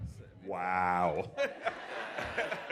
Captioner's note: laughter